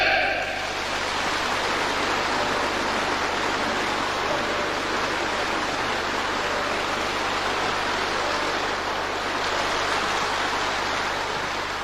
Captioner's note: applause